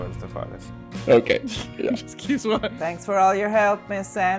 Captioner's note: laughs